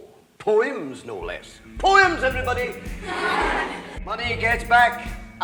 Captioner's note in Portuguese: risadas